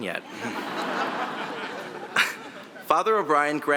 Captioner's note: audience laughing